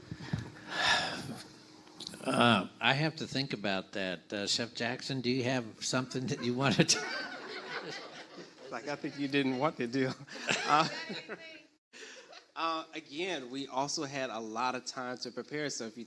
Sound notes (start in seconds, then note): 0.7 sigh; 6.3 laughs; 8.2 everyone laughs; 9.9 laughs